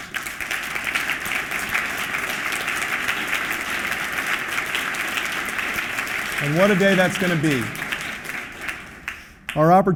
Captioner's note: applause